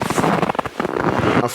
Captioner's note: snow Crunching Sounds from Extreme Cold